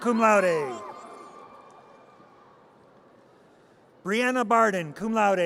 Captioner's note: audience cheers